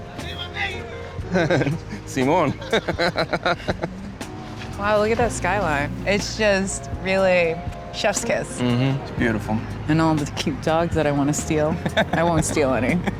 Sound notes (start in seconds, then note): 0.1 park patron speaks in Spanish; 1.3 laughs; 1.3 chuckles; 1.9 speaks in Spanish; 11.9 laughs